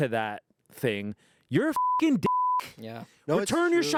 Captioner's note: beep